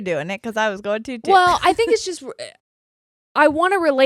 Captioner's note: chuckles